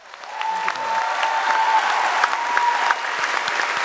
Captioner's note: applause